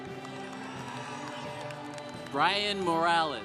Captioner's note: congregation applauding